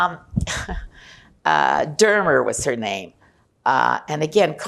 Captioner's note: laughing